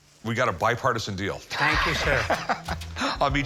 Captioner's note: laughing